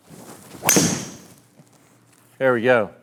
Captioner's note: club whooshes as ball hits wall